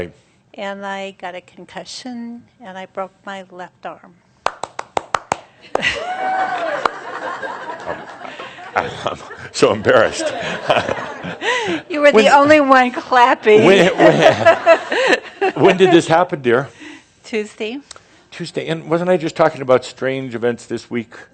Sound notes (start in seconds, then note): 10.1 Adamus chuckles; 13.5 she chuckles